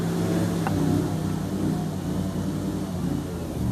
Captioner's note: rushing water sounds